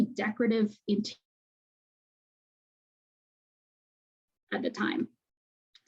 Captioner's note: audio dropout